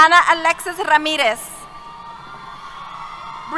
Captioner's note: cheers